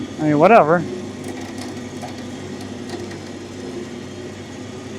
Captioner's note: trailer whirring